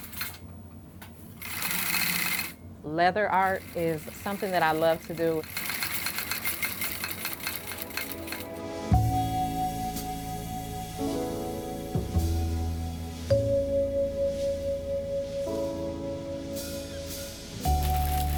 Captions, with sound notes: (sowing machine whirring) Leather art is something that I love to do. (inspiring music)